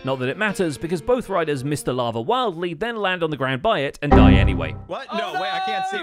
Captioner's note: windows error noise